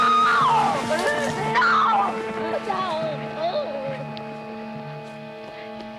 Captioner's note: screaming, crying